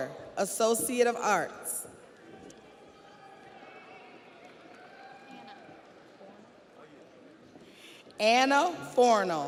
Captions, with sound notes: Scadisha Walker, Associate of Arts. (audience cheers)